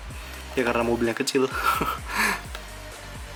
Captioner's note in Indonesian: tertawa